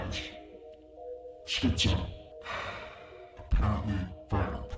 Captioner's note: sighs